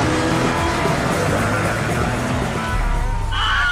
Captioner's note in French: bruits de moteur